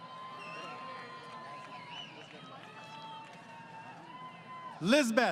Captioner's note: crowd Cheering